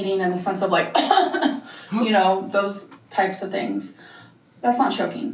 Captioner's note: coughs